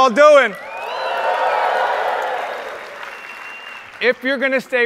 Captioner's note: audience cheers